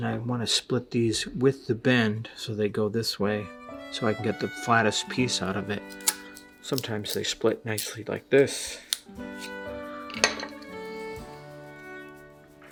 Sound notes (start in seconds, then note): 5.8 knife scrapes; 8.9 knife scrapes, gentle music; 10.1 knife clatters